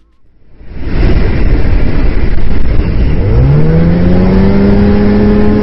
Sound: plane engine revving

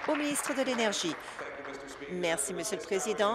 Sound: applause

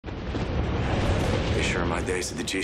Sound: thunder

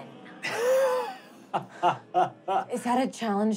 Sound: laughing

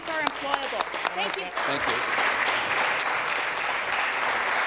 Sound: applause

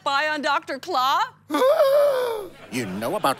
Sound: gasp

